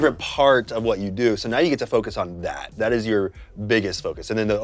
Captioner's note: none